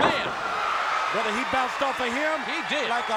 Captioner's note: crowd cheering